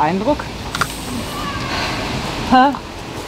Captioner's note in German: Seufzen